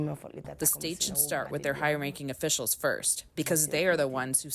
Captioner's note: through translator